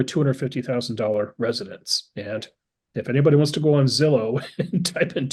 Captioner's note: laugh